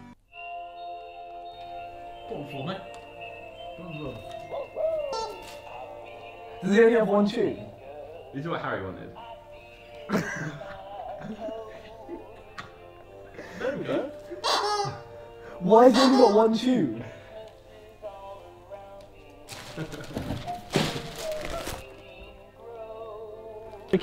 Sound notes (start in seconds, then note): 14.4 toy squeaking